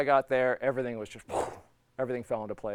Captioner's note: blowing